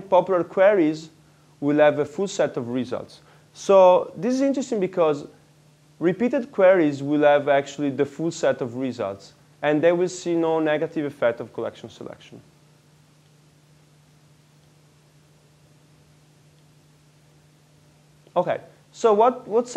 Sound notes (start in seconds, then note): 16.7 pause